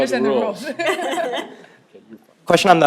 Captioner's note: laughing